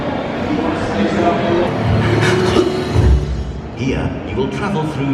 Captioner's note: people chatter